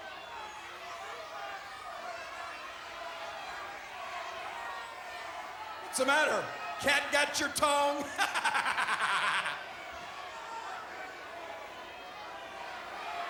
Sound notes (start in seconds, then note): 7.7 laughs; 10.1 crowd chattering